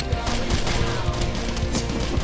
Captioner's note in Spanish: Disparo de pistola